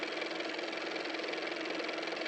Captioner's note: car motor